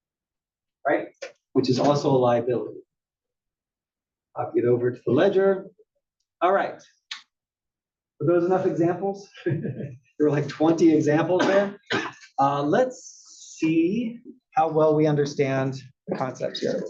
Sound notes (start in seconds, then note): 9.4 laugh